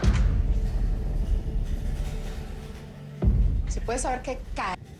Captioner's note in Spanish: Sonido al abrir la puerta